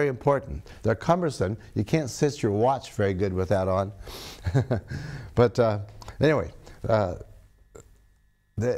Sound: laughs

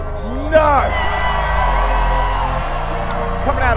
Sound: crowd cheering

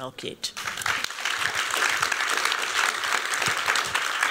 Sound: applause

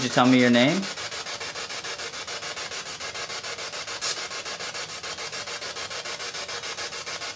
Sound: static

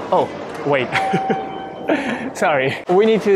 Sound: chuckles

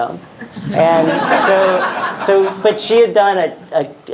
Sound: audience laughing

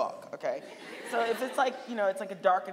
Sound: audience laughing

